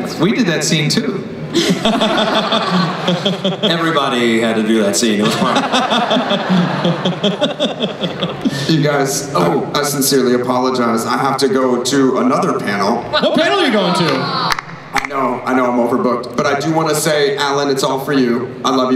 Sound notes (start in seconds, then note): 5.2 laughter